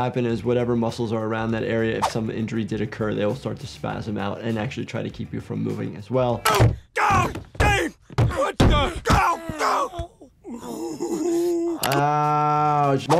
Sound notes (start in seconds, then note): 6.5 Homer grunting; 10.1 Homer and Marge groaning